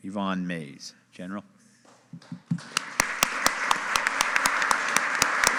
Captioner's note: audience applauding